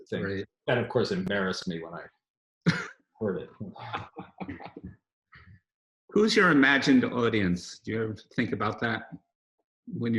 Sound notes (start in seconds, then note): 3.2 laughs